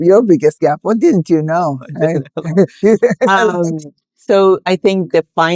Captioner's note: laughing